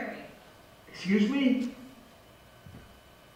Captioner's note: voice on phone